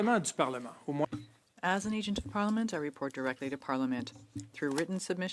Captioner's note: speaking French